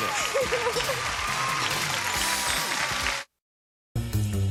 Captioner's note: applause, theme music